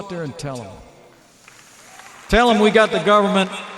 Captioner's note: applause